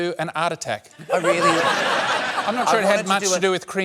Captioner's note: laughter